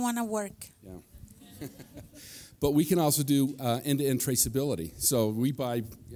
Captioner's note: laughs